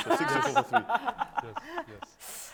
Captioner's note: panelists laughing